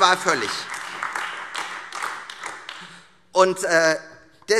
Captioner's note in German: Beifall